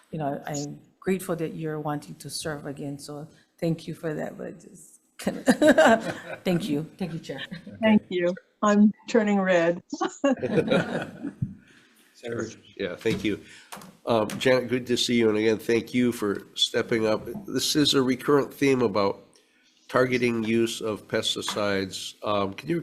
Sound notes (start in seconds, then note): 5.4 laughing; 10.2 members laughing